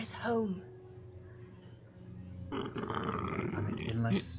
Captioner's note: croaking